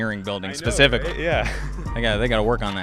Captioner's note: laughs